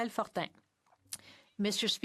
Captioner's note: speaking French